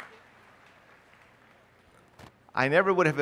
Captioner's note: applause